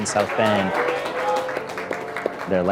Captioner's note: applause